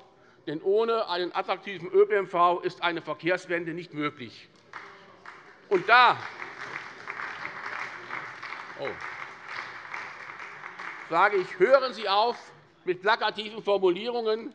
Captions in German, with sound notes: Ohne einen attraktiven ÖPNV ist eine Verkehrswende nicht möglich. [Beifall bei der SPD] Hören Sie auf mit plakativen Formulierungen,